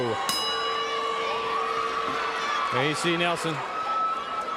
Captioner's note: bell ringing